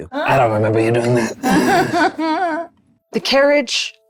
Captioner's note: chuckling